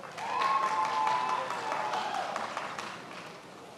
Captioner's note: many applauding